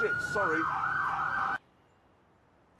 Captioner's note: siren wailing